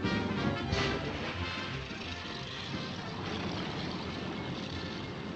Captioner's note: plane Engine Starting